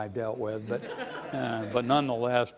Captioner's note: laughing